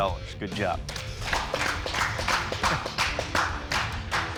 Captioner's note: applause